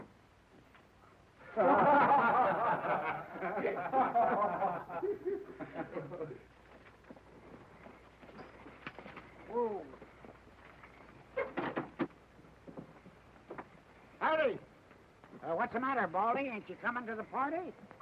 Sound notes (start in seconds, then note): 1.4 men laughing